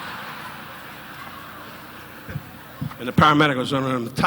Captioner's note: audience laughing